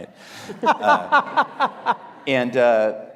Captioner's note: audience laughing